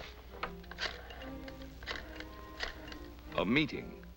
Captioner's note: phone clicking